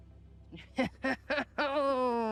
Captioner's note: laughs